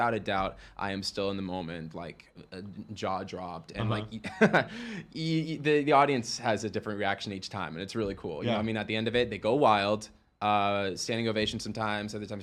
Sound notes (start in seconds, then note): 3.9 chuckles